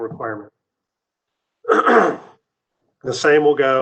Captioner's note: clears throat